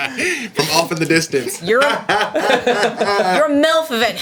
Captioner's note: laughter; loud laughter